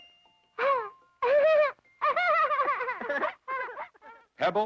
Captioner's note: both laugh